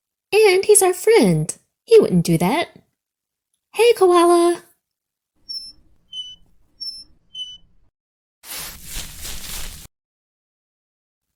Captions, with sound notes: And, he's our friend, he wouldn't do that. Hey, Koala! (fishing pole squeaks) (leaves rustle)